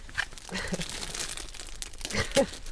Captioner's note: sniggers